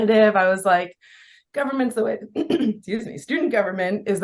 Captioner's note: coughs